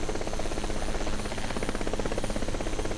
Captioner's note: helicopter Sounds